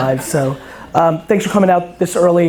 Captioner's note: crowd laughter